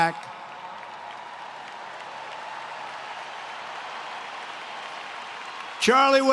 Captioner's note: applause